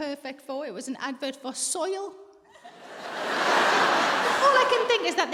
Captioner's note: audience laughs